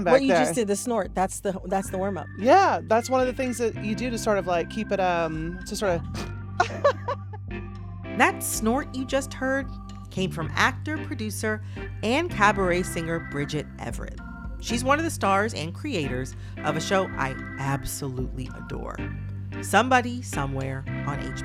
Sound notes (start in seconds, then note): 6.2 snorting; 6.6 laughter